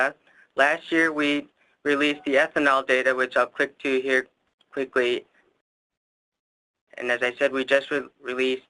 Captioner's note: musical ding sound